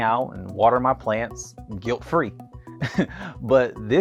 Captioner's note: chuckles